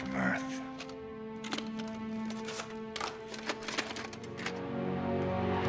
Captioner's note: tape player clicks